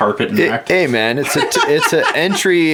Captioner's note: laughing